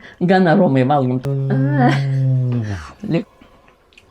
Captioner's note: imitates Ukrainian combat aircraft in Lithuanian